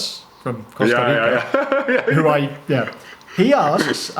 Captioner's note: laughs